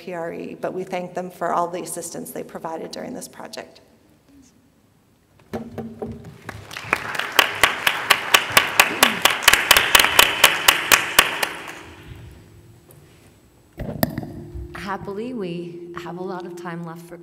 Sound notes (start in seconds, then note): 3.3 applause